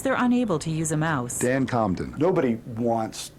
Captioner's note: voiceover